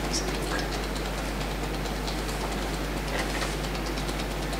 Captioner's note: tapping fingers